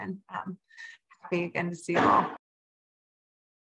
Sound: dropping thing sound

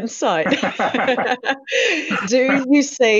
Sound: laughing

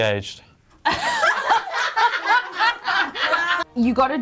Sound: all laughing

